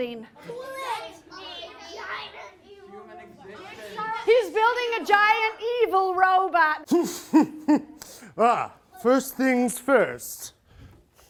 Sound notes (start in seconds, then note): 6.9 evil laughter